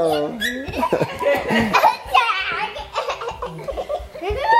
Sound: laughing

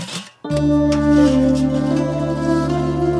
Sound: opening lid of steel utensil

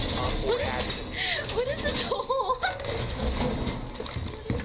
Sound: laughing

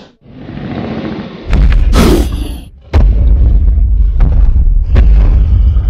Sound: stomping sounds

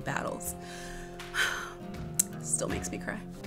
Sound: sighs

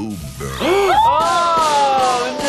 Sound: both gasps

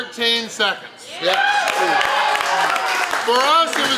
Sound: people clapping and cheering

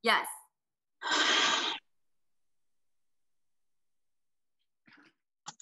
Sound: breathes out heavily

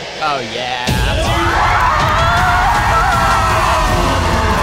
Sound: crowd cheering loudly; triumphant music

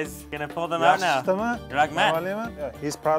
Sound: foreign language

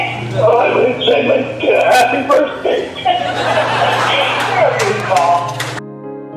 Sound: laughing

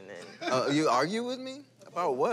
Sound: laughter

